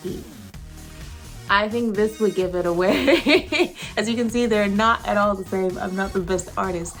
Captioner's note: laughs